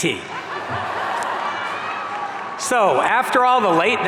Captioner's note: audience laughing